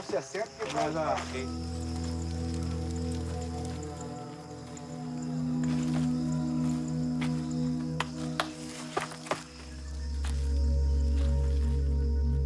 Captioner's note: insects chirring